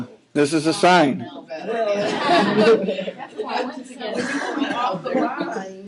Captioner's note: laughing